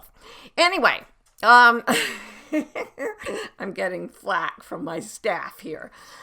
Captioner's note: laughs